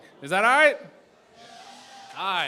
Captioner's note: cheering